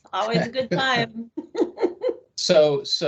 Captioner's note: laughing